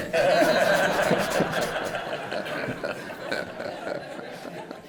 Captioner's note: laughter